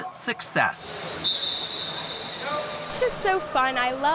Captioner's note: whistle blown